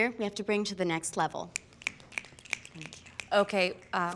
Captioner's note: fingers snapping